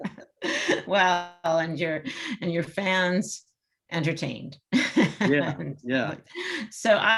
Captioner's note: both laugh; laughs